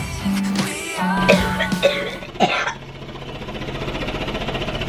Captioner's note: vest machine vibrating and coughing